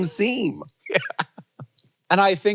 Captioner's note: laughs